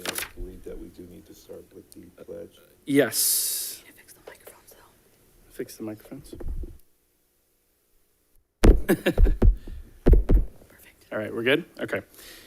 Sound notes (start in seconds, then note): 8.9 laughs